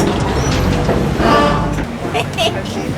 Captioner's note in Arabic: بوق قارب; ضحك